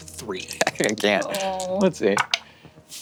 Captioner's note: laughs; dice tap table